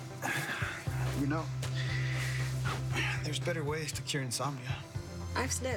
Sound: sighs

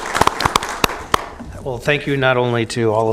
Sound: applause

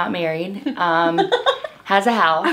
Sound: laughing

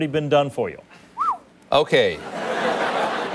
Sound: phew

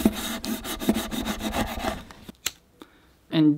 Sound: saw grinding

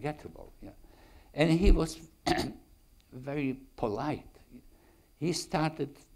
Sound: clears throat

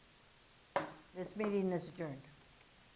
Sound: gavel cracking

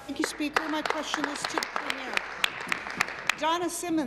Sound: applause

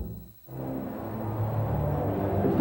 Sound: ambient ballpark noise

